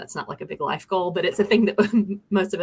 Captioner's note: laughter